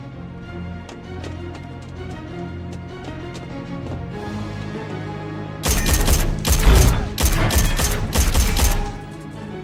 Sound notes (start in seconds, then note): 5.6 gunfire